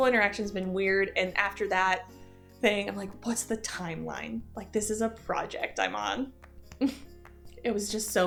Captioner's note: chuckle